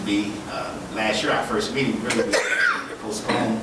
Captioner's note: woman coughing